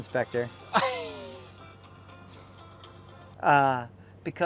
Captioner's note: laughs